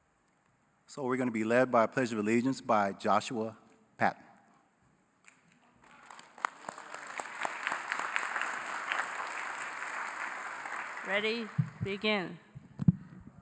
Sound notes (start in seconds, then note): 5.8 applause